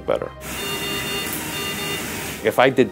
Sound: medical equipment beeping

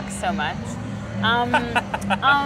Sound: laughs

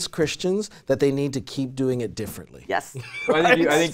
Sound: laughs

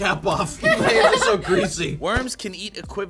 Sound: all laugh

